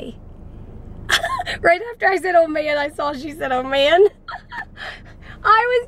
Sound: laughs

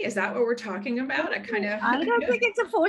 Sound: laughs

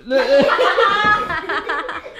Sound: laughing

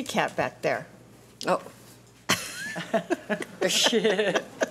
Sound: laughing

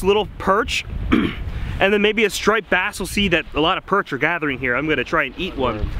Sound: clears throat

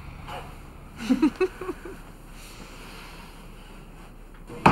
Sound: Nancy chuckles

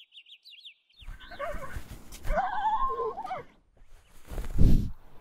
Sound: quiet pained neigh

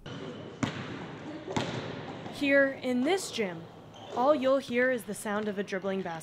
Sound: dribbling noise

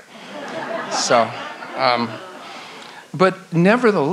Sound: audience laughs

